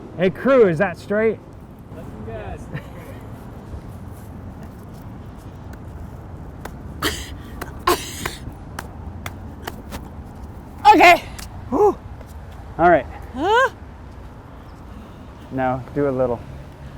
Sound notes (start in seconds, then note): 7.0 laughs; 8.1 pounding